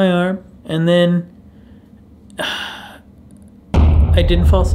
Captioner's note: explosion sound; sighs